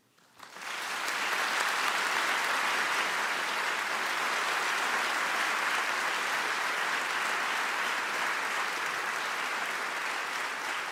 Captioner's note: applause